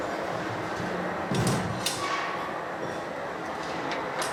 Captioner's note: tools clacking